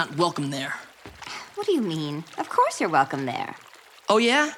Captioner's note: she sighs